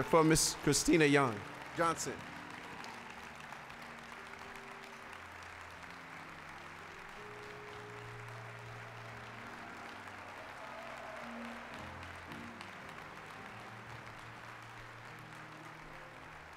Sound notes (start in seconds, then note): 3.1 applause